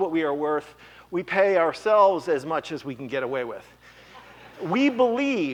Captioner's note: laughter